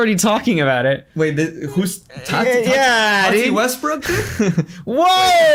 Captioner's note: laughs